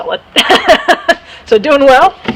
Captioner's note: laughing